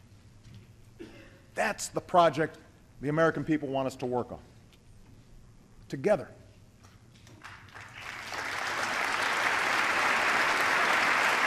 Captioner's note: applause